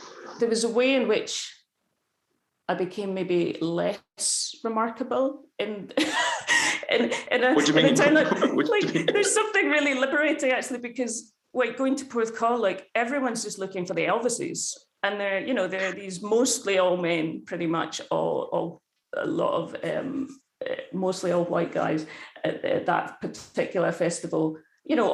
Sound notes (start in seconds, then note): 5.9 laughs